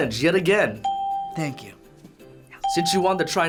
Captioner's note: ding